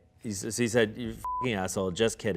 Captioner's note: beep